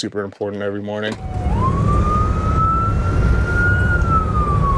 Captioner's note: siren wailing